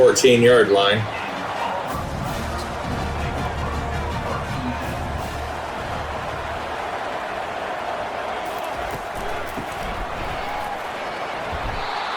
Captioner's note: crowd Noises